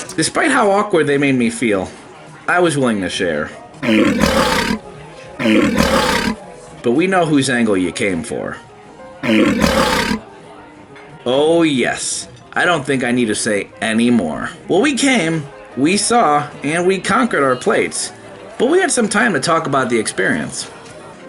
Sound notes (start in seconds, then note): 3.8 monster growling; 9.2 monster growling